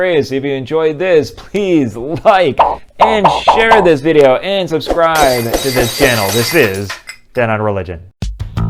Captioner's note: glass breaking